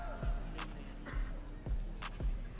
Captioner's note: audience cheering